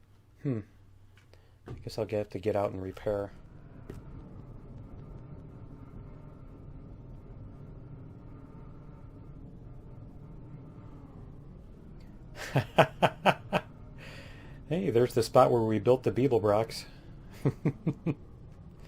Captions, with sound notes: Hmm, I guess I'll have to get out and repair. [laughs] Hey, there is the spot where we built the Beeblebrox.